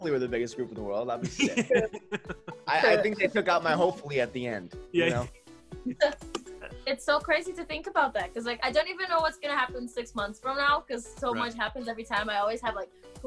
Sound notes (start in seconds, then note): 1.2 laughs